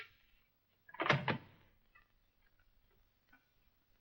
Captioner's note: door knob clicks